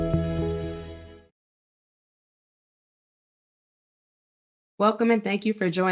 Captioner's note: silence